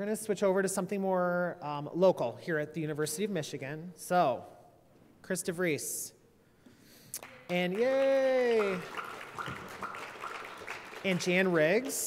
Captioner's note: applause